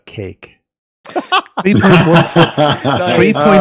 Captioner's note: laughing